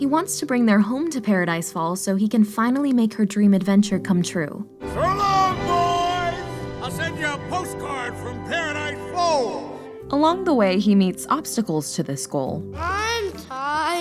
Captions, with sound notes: He wants to bring their home to Paradise Falls so he can finally make her dream adventure come true. [Shouts] “So long, boys! I’ll send you a postcard from Paradise Falls!” Along the way he meets obstacles to this goal.